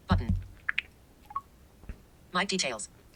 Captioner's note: popping sounds